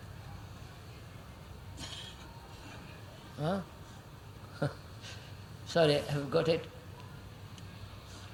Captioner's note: laughs